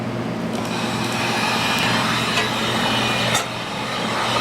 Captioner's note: heat gun whirring